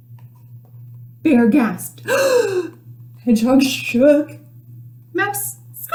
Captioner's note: big gasp